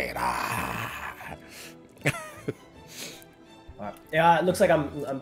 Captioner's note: laugh